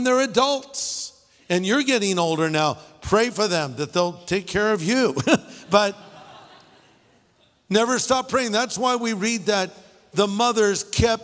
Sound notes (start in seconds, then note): 7.0 laughter